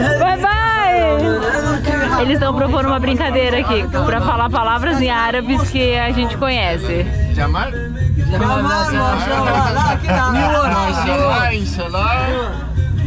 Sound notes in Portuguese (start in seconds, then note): 8.4 falatório